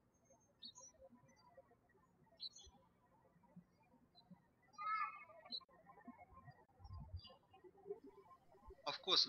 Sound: birds chirping

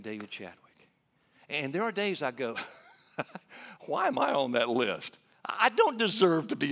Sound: laughing

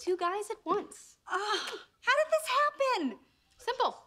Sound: sighs

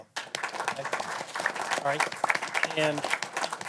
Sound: applause

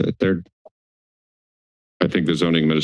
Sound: silence

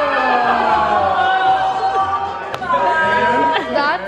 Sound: cheering

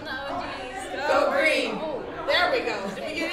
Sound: laughs

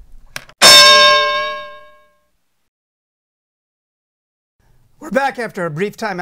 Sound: bell

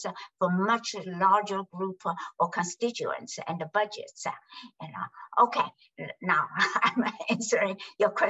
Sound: laughs

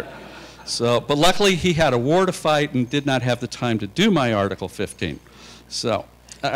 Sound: laughter

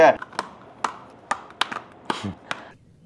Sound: unboxing sound

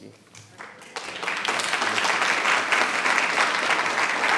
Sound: audience applauding

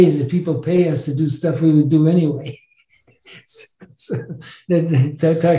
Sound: laughs

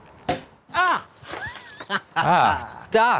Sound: champagne pop; Crayon laughing; nervous chuckle

